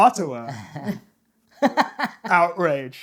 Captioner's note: laughter